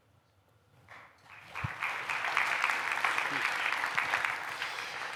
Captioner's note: applause